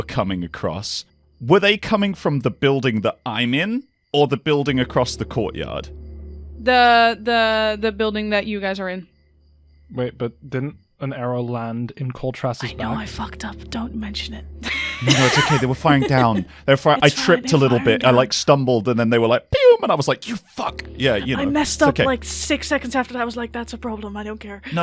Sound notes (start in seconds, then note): 13.0 whispering; 14.6 laughs; 14.6 laughter; 21.5 whispering